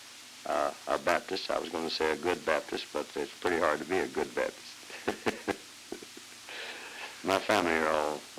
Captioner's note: chuckle